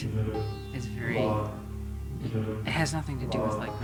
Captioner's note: people chanting "waheguru"